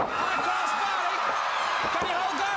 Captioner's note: crowd cheering